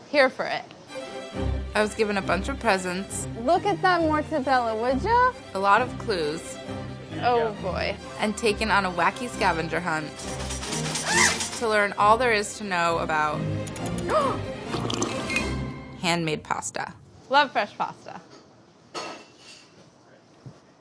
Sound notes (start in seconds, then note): 10.1 machine squealing; 13.9 gasps; 14.7 slurping